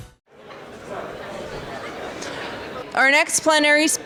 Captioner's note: bright music; people clamoring